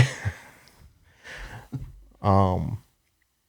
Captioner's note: laughs